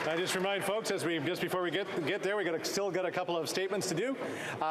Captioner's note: applause